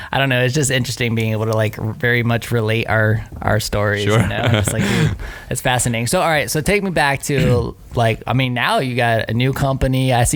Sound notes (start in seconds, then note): 4.1 laughs